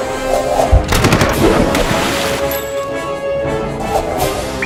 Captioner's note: waves crashing on rocks